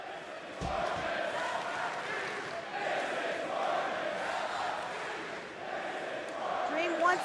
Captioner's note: crowd cheering